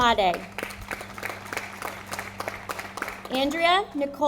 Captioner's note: audience applauding